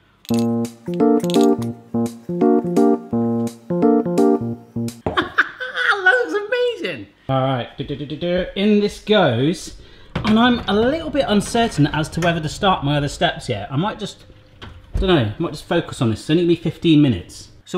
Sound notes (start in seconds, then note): 0.3 upbeat electronic music; 5.2 laughs